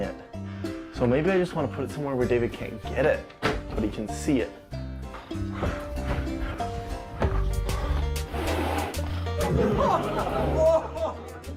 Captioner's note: audience laughter